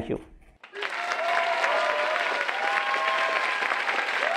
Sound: applause

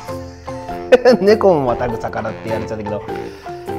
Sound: laughs

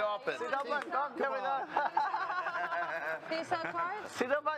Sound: laughter

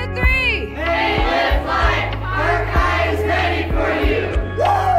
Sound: crowd

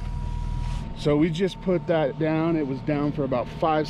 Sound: boat engine idling

